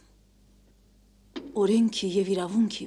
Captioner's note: knock